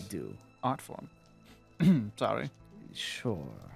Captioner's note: ahem